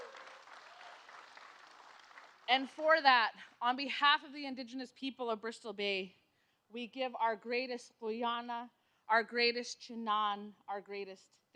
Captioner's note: cheers and applause